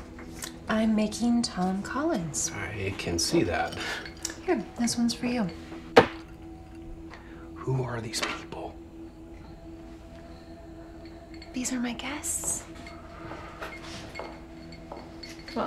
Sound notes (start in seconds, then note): 5.9 glass thuds; 9.0 crickets chirping; 9.0 tense music; 12.7 ice cubes clinking; 12.7 tense music